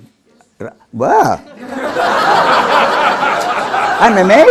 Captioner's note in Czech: smích